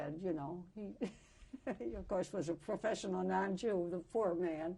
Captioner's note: chuckles